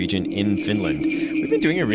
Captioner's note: wind blowing and bells ringing